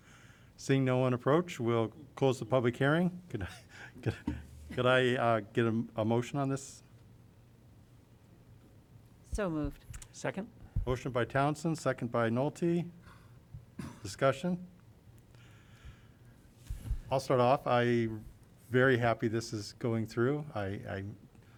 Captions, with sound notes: Seeing no one approach we'll close the public hearing. [LAUGHTER] Can I get a motion on this? So moved. Second. Motion by Townsend, second by Nolte. Discussion. I'll start off. I'm very happy this is going through.